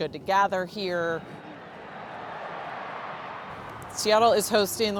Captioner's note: cheering in distance